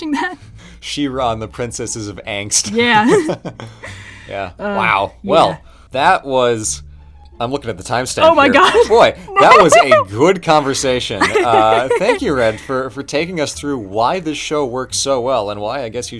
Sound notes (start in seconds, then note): 11.2 muffled laughter